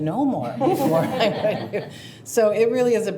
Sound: participants chuckle

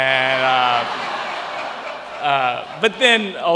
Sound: laughter

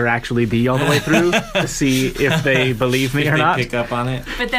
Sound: laughs

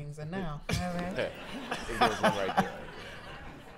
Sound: laughter

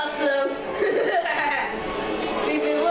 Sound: creepy laugh

